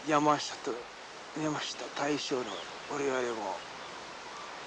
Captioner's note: speaking foreign language